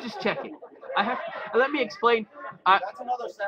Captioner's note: laughter